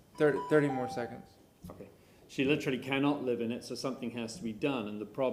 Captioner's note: bell sounds